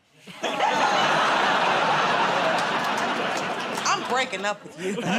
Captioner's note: laughter, groaning